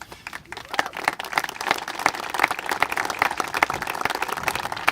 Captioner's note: congregation applaud